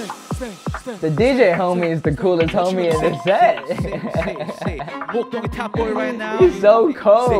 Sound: laughs

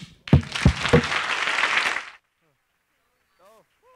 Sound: audience applauding

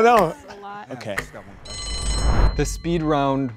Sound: bell rings

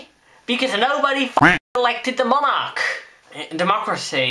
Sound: quack

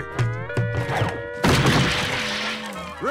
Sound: smashing

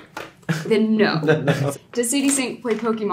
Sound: Gaten laughs

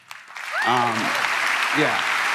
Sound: crowd cheering

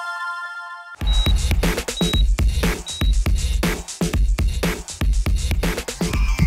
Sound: upbeat music; heart monitor beeping

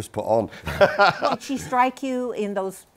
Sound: laughs

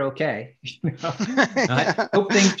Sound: laughs

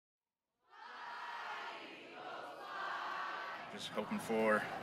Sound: Chanting: Fly, Eagles, Fly

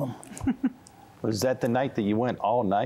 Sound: giggling

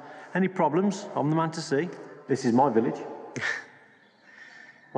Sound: chuckles

